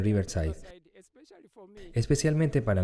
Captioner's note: Hablando idioma extranjero